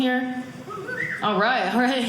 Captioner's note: whistle